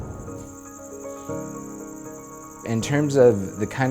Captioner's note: crickets chirping